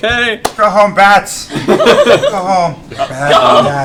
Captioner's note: laughter